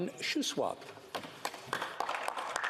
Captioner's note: speaking French